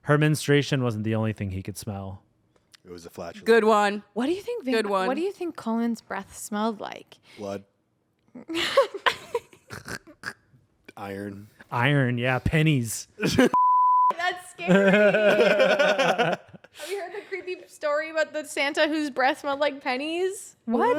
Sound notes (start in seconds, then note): 8.6 everyone laughs; 13.5 beep; 14.6 everyone laughs